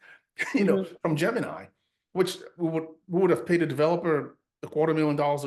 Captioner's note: laughs